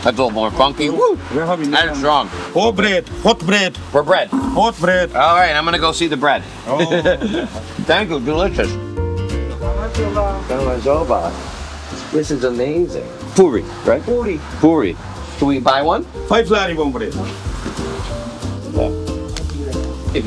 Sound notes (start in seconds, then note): 6.7 laughing; 9.1 gentle orchestral music; 10.1 person and speaking in a foreign language; 16.9 person speaking in a foreign language; 17.7 gentle orchestral music